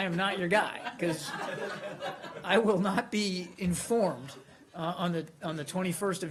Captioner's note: laughter